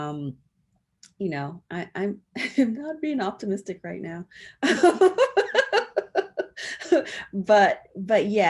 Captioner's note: laughs